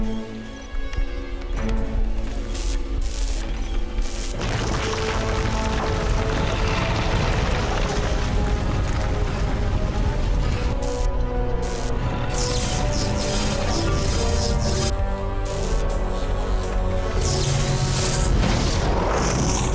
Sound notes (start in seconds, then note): 2.4 crackling